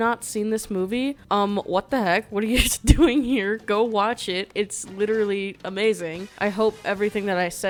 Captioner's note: laughs